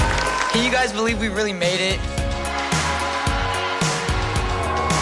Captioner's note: applause